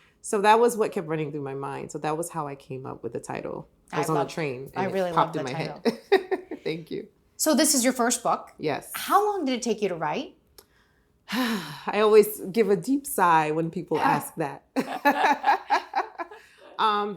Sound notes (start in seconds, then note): 11.3 sighing